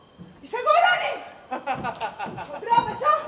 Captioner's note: γέλιο του